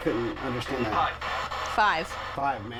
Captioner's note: spirit box voice